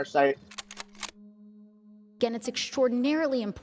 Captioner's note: gun clip reloading